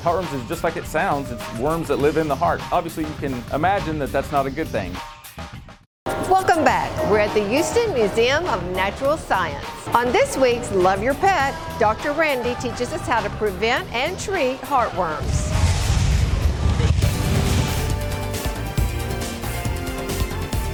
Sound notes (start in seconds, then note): 14.7 whooshing; 17.8 vibrant music